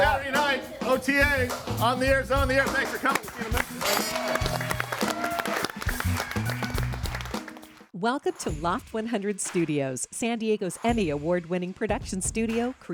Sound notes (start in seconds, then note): 2.8 audience applauds and cheers; 4.1 upbeat music